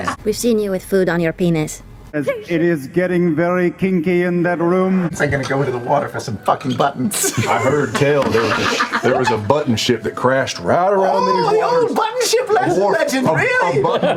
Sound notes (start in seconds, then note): 5.3 snarkily